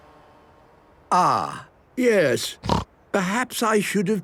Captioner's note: snorting